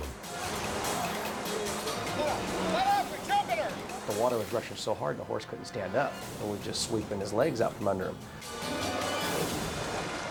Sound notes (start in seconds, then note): 0.2 edgy dramatic music; 1.8 rescuers shouting; 8.4 edgy dramatic music